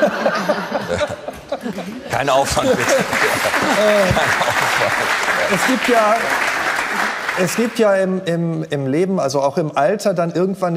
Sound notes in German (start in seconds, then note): 0.0 Lachen; 4.2 Applaus